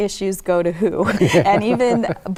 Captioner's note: laughter